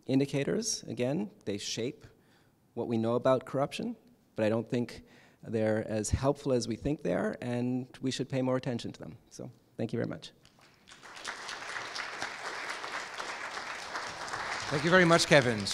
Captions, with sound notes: Indicators, again, they shape what we know about corruption, but I don’t think they are as helpful as we think they are, and we should pay more attention to them. So, thank you very much. [APPLAUSE]. >> Thank you very much, Kevin.